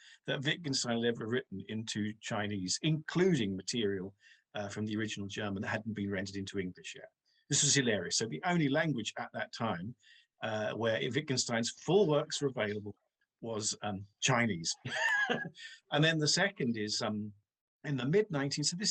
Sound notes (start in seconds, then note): 14.8 laughing